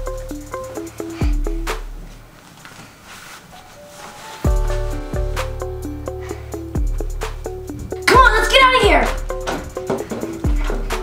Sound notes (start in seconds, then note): 4.8 dress rustles